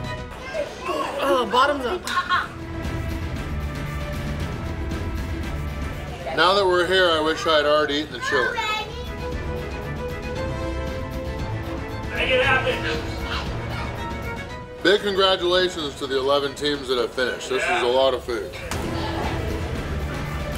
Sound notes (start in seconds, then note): 11.2 crowd